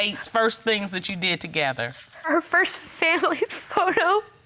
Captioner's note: sobbing